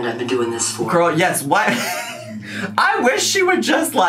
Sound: laughs

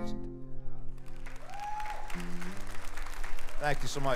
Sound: audience cheers and applauds

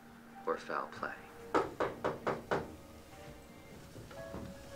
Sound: knocking

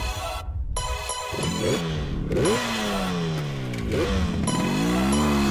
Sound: engine revving

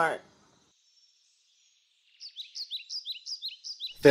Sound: birds

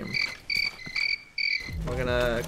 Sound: crickets

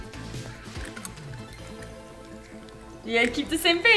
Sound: crunching sound

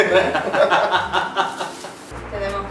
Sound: laughs

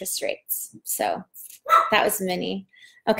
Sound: dog barks

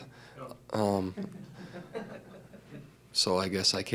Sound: laughter

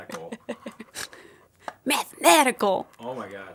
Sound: laughing

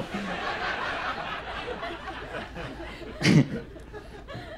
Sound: audience laughs

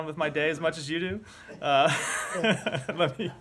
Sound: laughter

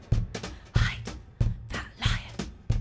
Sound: whisper

